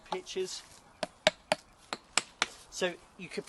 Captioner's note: tapping sound